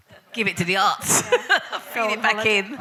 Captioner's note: laughs